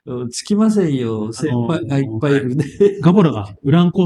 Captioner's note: laughs